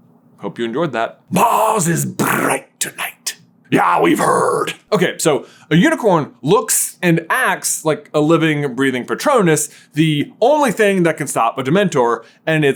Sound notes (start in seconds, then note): 3.7 aggressive Scottish accent